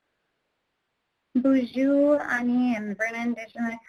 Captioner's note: speaks in foreign language